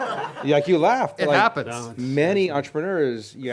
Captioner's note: laughter; voiceover